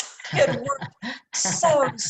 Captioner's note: laughter